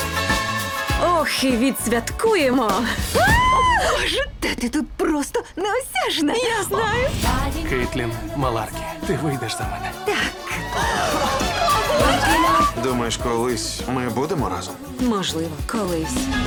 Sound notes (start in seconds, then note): 11.2 spectators gasp, laugh